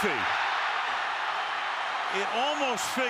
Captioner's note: cheers, applause